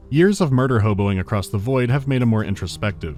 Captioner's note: none